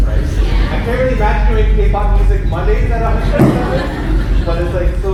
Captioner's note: laughter